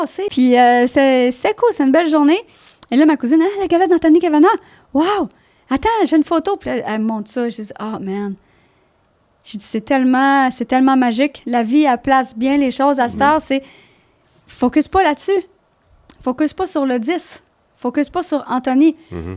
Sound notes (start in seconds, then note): 0.0 in french